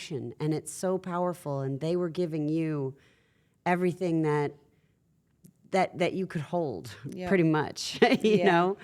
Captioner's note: laugh